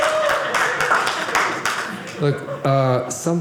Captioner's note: audience cheering